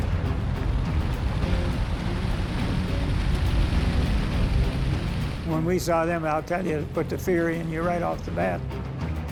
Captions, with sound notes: (tank engines roaring) - When we saw them, I'll tell you it put the fear in you right off the bat.